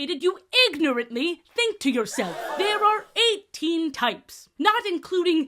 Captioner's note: crowd gasp sfx